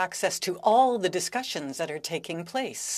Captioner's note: speaking French